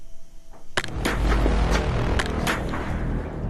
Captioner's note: shots blasting